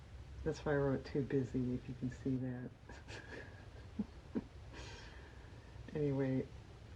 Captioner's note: laughs